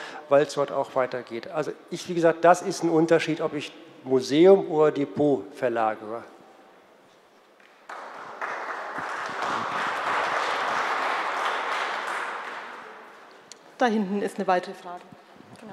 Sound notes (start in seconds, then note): 7.6 Applause from the CDU and the BÜNDNIS 90/DIE GRÜNEN